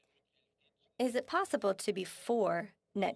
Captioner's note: speaking French